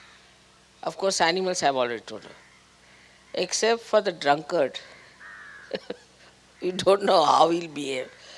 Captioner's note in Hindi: Shri Mataji laughing; श्री माताजी हंसते हुए